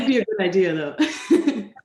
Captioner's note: laughs